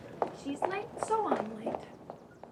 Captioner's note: footsteps tapping; birds chirping